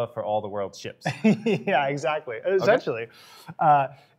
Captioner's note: laughs